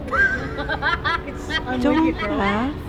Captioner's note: bystander laughing